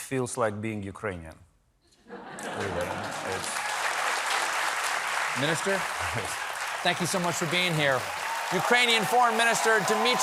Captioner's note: applause